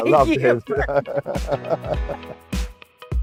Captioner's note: laughing